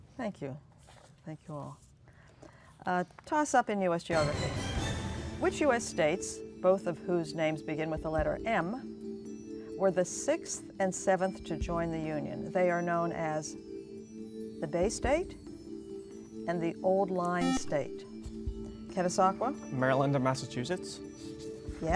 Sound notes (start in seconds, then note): 17.4 buzzer